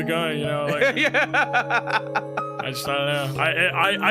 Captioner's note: laughs